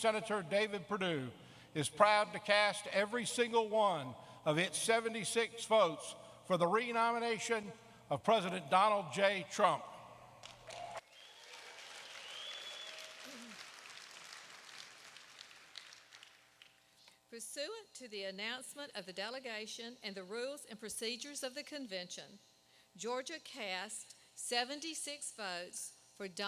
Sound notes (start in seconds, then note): 13.9 applause